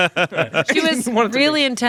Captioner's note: laughs